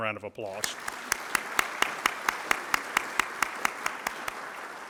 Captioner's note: audience applauds